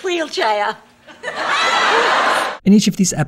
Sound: audience laughter

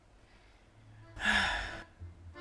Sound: sigh

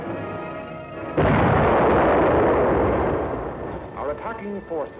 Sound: explosion

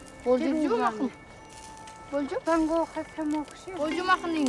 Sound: speaking Uyghur

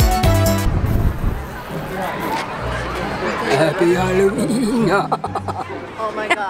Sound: energetic music; emphatic laughing

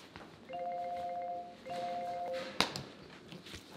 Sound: phone ringing

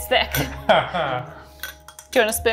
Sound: laughing; fork clinking

